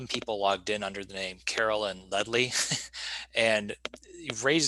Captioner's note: giggling